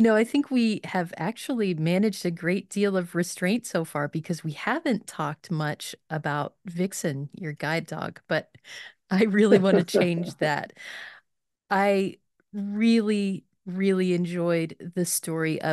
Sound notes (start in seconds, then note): 9.2 laughing